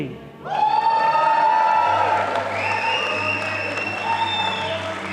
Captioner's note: audience applauding